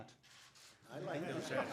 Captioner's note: laughter